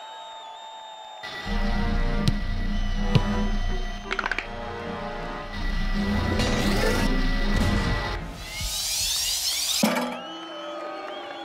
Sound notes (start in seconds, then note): 3.8 crack; 9.8 crowd booing